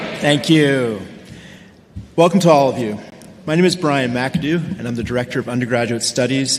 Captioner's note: audience response